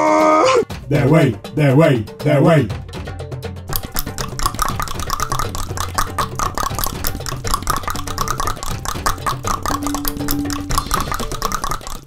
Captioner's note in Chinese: 大量彈舌